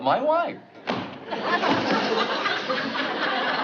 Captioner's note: book slams